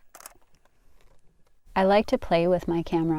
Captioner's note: camera shutter